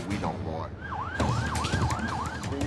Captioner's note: siren wailing